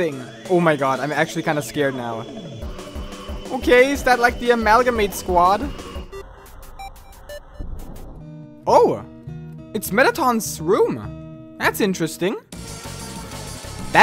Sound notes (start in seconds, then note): 6.2 Core sound effect in the background